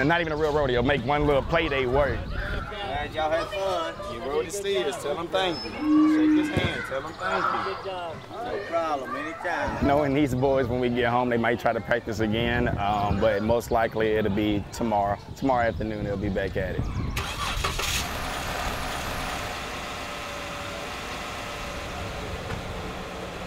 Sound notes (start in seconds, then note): 17.1 engine roars to life; 20.3 engines whirring